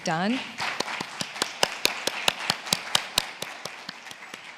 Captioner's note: attendees applauds